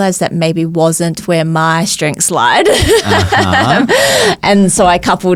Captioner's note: laughs